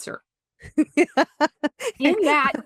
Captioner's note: laughter